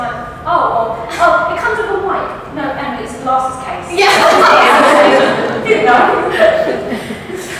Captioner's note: all laugh